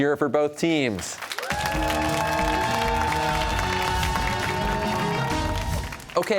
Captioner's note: cheers and applause